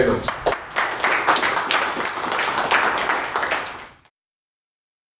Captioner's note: applause